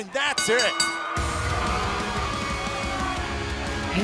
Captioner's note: bell ringing